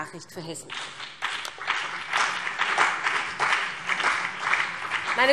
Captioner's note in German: Beifall BÜNDNIS 90/DIE GRÜNEN und CDU